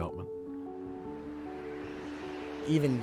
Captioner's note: wind blowing